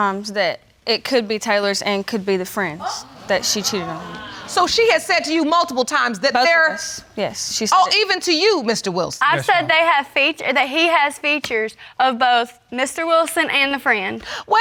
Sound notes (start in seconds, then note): 2.8 audience exclaiming